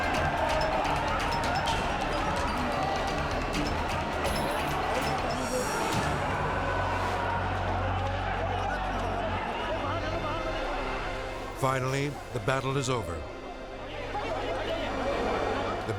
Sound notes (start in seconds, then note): 0.6 group chattering angrily; 13.6 group chattering